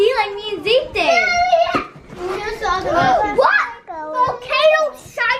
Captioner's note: children chattering excitedly